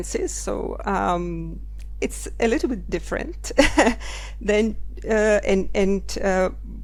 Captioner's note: chuckles